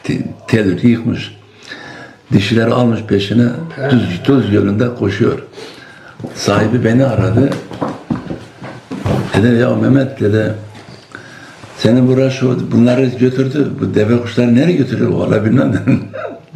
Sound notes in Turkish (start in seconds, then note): 3.2 homurdanır; 16.0 boğazını temizler